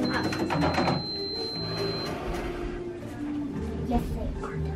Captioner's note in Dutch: Speelgoedkassa biept